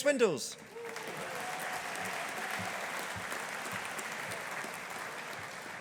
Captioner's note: audience applauding